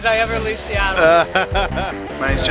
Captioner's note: laughter